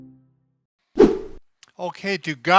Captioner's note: whip sound